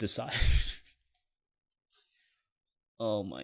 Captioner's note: laughs